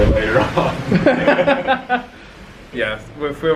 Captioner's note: they laugh